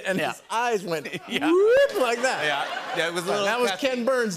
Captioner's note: laughter